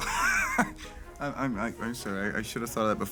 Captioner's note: laughs; stutters